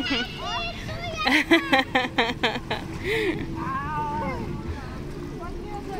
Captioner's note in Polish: śmiech